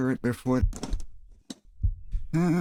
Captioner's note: heartbeats